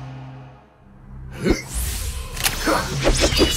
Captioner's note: determined grunting; sword slashes